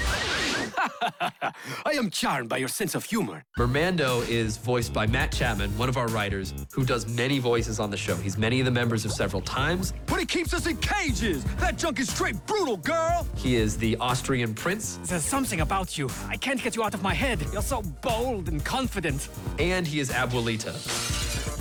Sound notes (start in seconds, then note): 0.0 chuckles; 14.7 Austrian accent